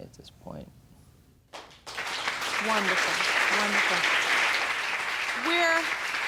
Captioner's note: audience applauding